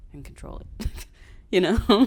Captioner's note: laughs